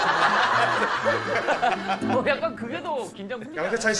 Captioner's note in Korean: 웃음소리